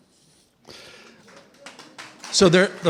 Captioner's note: applause